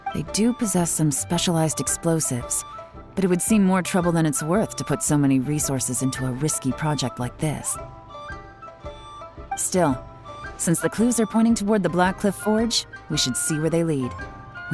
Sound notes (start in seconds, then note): none